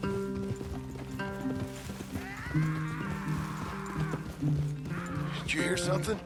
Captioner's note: A nearby scream is heard